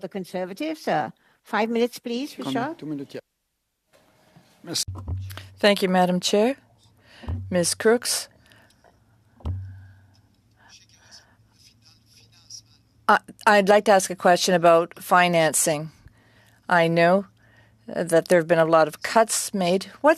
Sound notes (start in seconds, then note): 10.3 speaking french